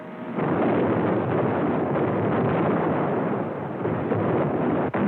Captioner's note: explosions